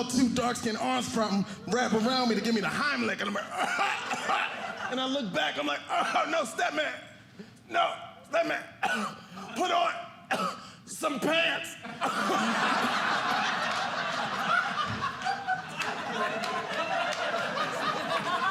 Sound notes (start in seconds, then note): 11.8 audience laughing